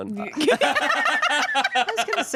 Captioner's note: everyone laughs